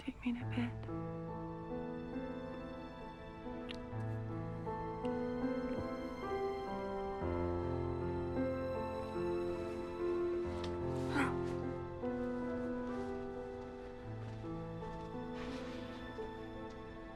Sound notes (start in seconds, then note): 3.6 lips smacking; 4.0 romantic music